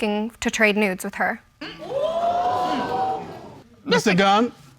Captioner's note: audience gasping